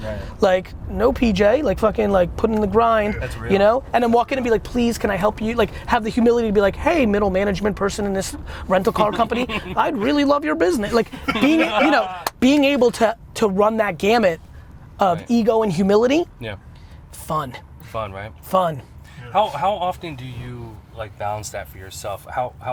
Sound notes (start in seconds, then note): 10.9 laughs